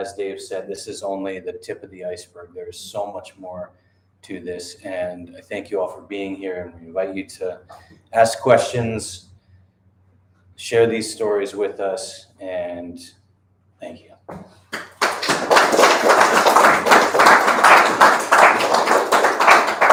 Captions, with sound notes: Dave said this is only the tip of the iceberg there is so much more to this and I thank you all for being here and we invite you to ask questions share these stories with us and thank you *audience applause*